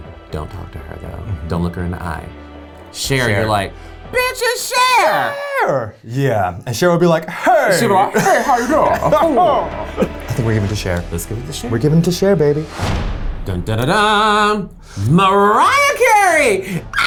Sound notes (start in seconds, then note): 9.5 chuckling; 16.8 chuckles; 16.8 screams